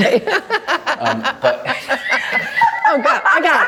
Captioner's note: Meryl and Emily laughing